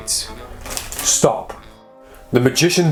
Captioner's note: cards flutter